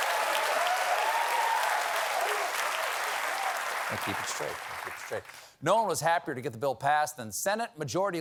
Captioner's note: cheers and applause